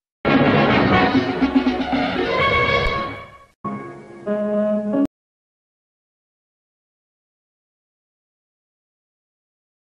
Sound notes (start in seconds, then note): 5.5 silence